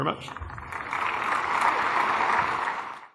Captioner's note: applause